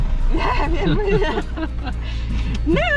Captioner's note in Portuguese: Risos